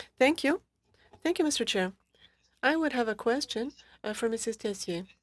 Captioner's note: speaking French